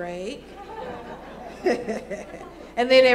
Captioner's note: laughs; laughter